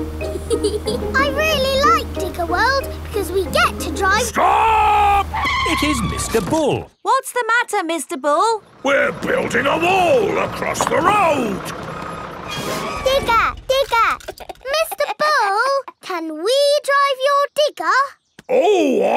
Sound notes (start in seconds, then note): 0.4 george chuckling; 4.0 tires screeching; 14.3 chuckles